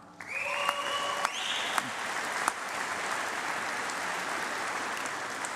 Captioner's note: applause